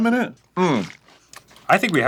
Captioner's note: upset grunt of dislike